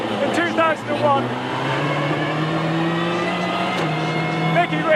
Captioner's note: engine rasping